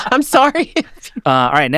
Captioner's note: chuckling